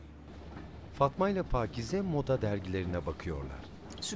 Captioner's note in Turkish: Tren sesi